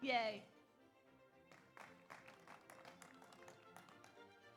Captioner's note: audience applauds